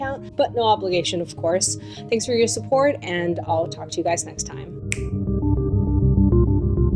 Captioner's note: snap!